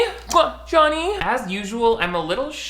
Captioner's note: smooches